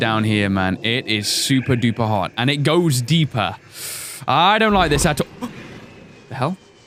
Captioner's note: gasp